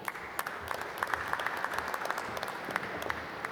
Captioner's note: applause